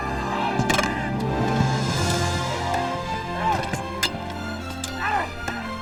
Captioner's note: metal clanking; grunting